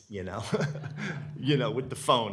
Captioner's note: laughs